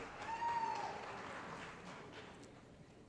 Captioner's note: applause